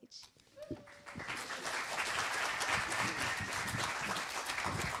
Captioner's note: applause